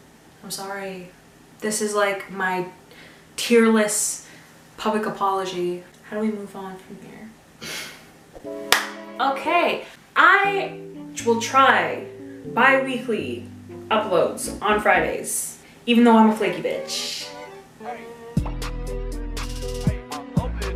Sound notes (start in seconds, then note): 7.5 laughs; 8.7 claps